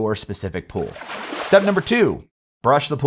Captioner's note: graphics splash